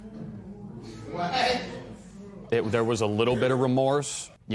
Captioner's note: spectators murmur